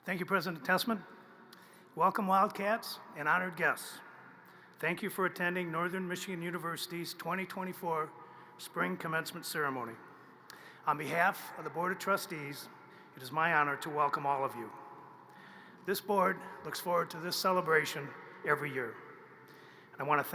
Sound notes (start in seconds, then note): none